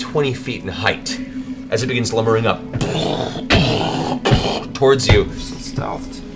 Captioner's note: krsh krsh krsh